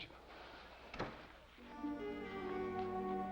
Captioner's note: door closes; ominous music